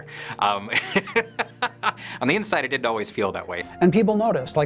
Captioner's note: laughs